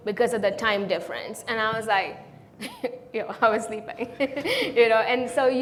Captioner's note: chuckles